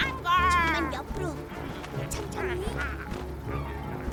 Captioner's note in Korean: 새 소리